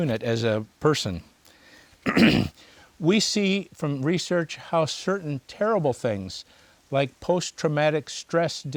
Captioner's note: clears throat